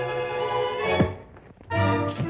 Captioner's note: thud; dramatic music